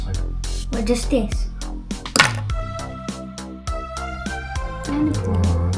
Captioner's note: ice cube drop